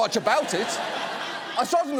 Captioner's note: audience laughs